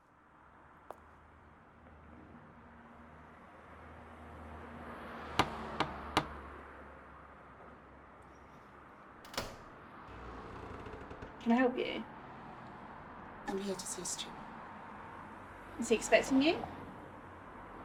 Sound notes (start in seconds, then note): 0.4 traffic whooshing; 5.4 door knocking